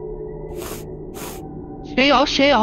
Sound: sniff, sniff

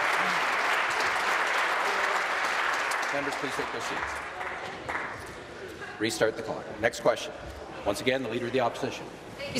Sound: applause

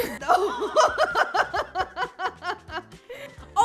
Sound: laughter

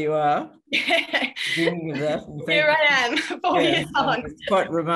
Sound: laughs

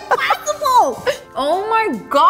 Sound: laughing

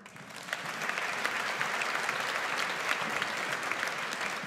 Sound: audience applauds

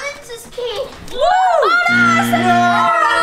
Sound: cheers; buzzer blaring

